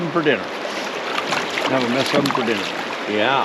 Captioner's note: fish splashing; water flowing